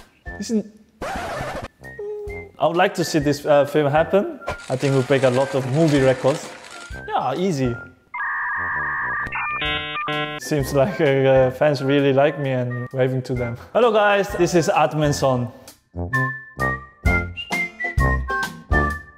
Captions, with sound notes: Isn't… I would like to see this film happen. I think it would break a lot of movie records. Yeah, easy… [dial-up sound] It seems like the fans really like me, and waving to them. Hello, guys. This is Admin Son. [whimsical music]